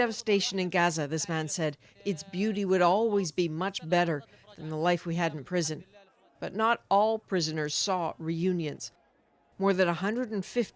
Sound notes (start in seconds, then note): 2.6 speaking alternate language